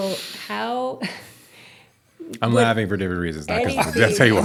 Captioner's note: chuckles